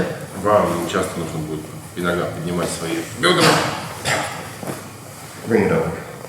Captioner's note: speaking in a foreign language